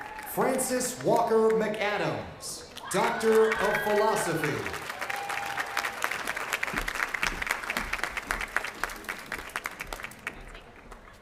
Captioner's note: cheers and applause